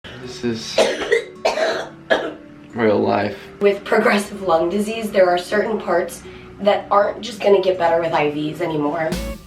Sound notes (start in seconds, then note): 0.7 coughing